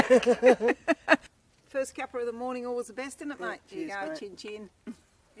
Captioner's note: laughter